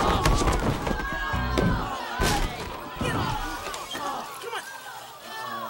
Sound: chattering

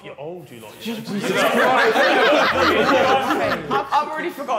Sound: all laughing

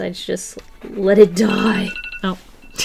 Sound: timer sounds

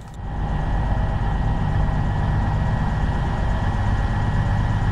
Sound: train humming

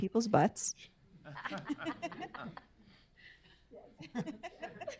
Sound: laughs; audience members chuckle; laughs

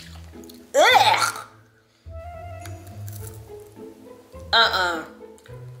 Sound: exclaims disgustedly

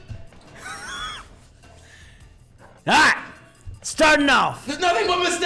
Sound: laugh

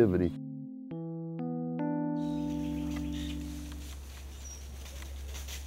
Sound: animals running

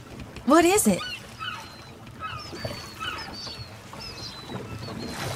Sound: birds chirping

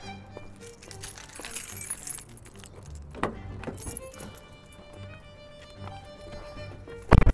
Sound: violin music; keys jangling; door opening; door closing

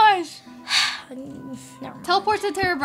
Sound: sighs

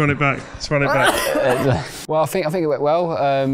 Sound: pigeon continues coughing

